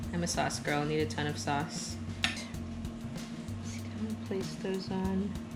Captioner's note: none